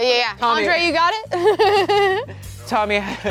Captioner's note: laughing